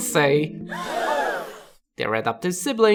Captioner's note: shocked gasps